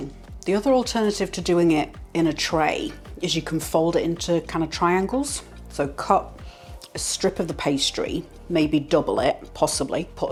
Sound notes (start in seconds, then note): none